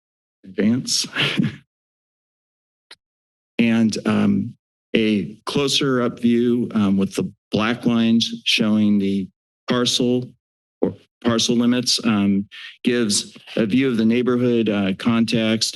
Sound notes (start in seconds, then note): 0.0 silence; 0.8 chuckles; 2.1 silence